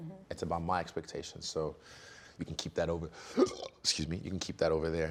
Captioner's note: burping